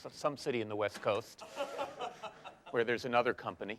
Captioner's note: laughter